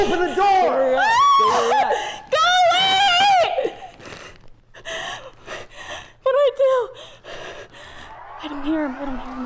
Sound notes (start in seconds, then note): 0.9 woman screaming